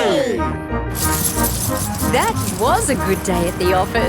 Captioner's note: coins jingling